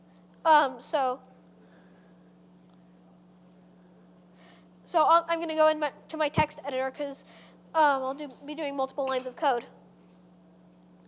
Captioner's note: pause